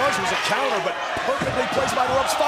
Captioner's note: crowd cheering